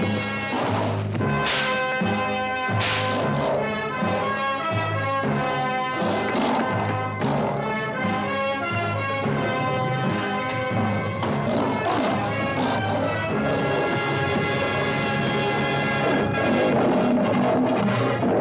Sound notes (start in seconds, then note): 1.0 lions snarling; 14.7 triumphant fanfare music